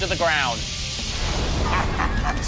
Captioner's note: all laugh